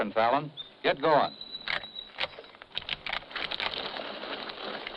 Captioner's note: guns cocking